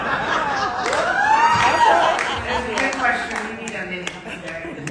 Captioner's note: audience laughing